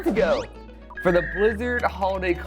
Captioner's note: whistle blows